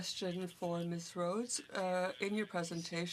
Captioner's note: speaking French